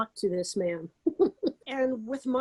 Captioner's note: laughing